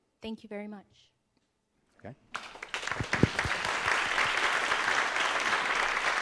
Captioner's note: applause